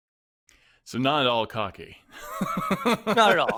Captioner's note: laughs